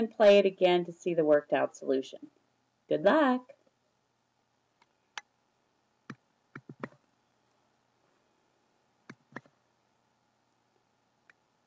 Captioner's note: silence